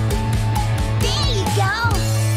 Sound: none

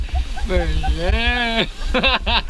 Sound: laughing

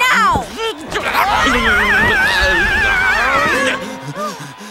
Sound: both scream

